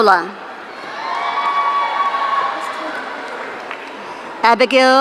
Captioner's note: audience cheering